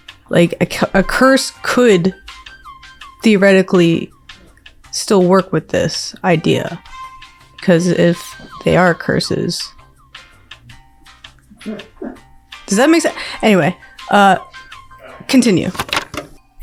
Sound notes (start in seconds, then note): 11.5 laughing